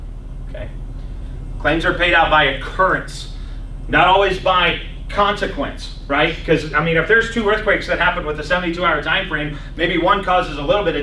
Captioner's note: clears throat